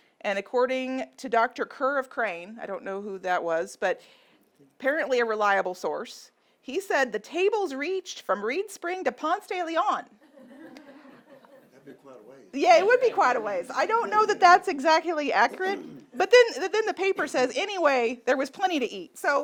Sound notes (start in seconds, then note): 10.3 audience laughing